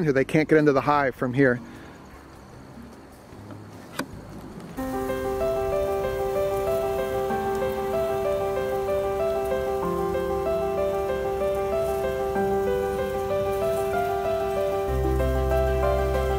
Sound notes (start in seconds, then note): 4.8 piano instrumental music; 8.4 bees buzzing